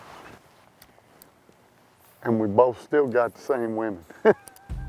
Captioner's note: laughs